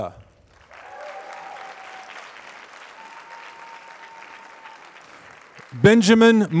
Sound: applause

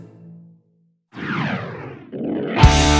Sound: whooosh

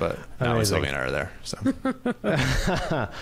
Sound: laughs

